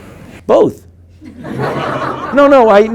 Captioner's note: group laughing